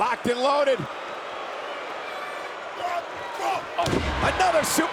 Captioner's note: audience jeers